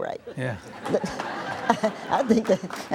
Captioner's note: audience laughs